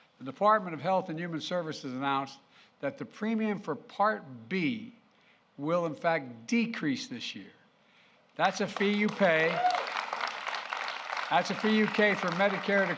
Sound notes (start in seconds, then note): 8.4 applause